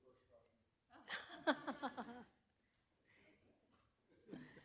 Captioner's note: laughter